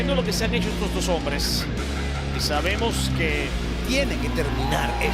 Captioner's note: commentator speaking Spanish